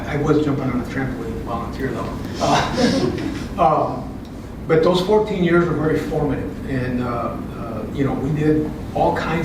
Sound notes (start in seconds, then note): 2.4 laugh